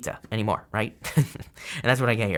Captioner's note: chuckles